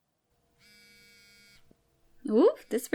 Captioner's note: phone vibrating